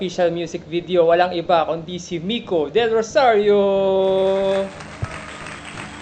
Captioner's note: applause